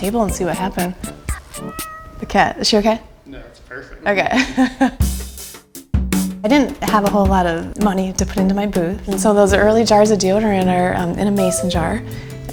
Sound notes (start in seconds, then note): 1.0 cat meows; 4.4 laughs